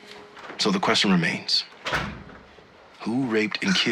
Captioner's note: door closes